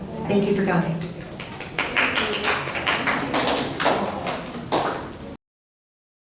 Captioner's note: clapping